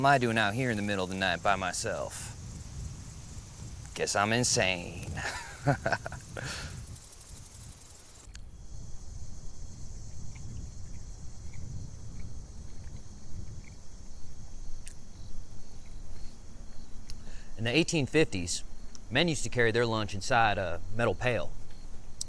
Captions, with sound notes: What the hell am I doing out here in the middle of the night by myself? (insects chittering) Guess I'm insane. (laughs) (insects chittering) (Pete munching) (insects chittering) In the 1850s, men used to carry their lunch inside a metal pail.